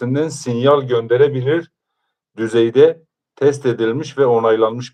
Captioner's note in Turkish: none